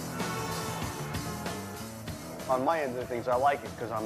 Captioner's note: car horn honks